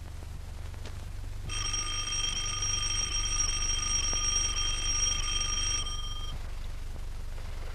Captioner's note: door Bell